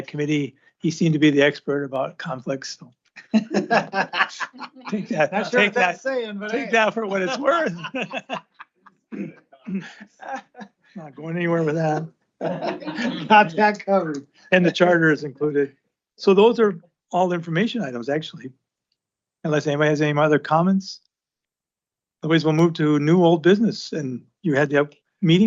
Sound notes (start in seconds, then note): 3.2 laughter; 9.6 clears throat and laughter